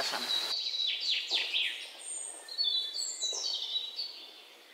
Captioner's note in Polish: śpiew ptaków